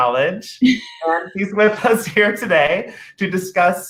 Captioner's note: laughter